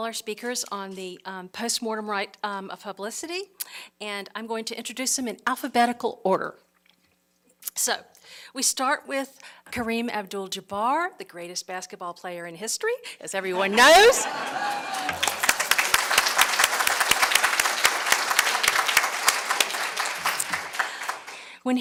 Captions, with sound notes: all our speakers on the postmortem right of publicity. I'm going to introduce them in alphabetical order. So we start with Kareem Abdul-Jabbar, the greatest basketball player in history, as everyone knows. (Applause)